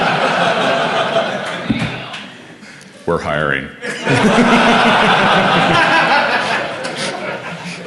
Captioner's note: laughter